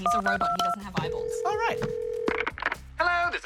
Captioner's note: line rings